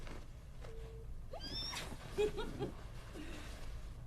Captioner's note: ridacchiando